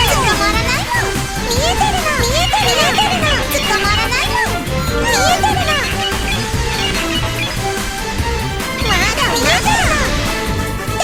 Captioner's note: laughs